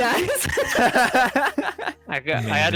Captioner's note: laughs; giggles